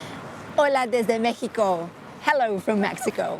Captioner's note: in Spanish